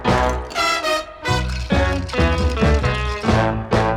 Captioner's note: ice cubes clink